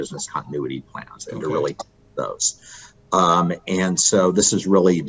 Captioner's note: audio cutting out